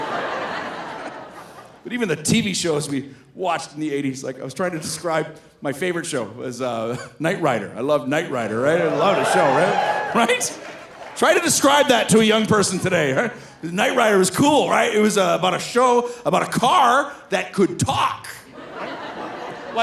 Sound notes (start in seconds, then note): 0.0 audience laughing; 6.7 laughs; 8.4 audience cheering; 18.4 audience laughing